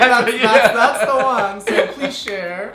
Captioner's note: laughs